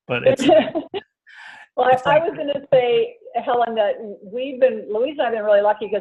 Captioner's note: laughs